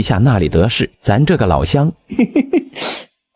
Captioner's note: chuckles